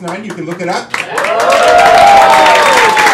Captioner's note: crowd cheering